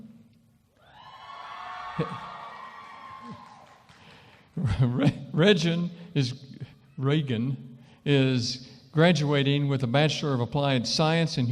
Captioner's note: cheering & applause